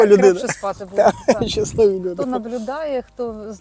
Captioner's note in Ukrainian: сміх